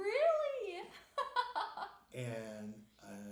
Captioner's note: laughing